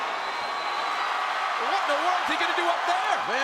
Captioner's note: audience cheering